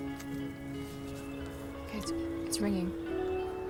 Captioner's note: ringing